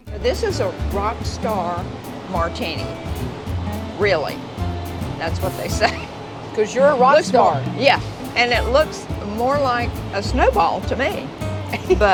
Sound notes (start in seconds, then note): 5.7 chuckles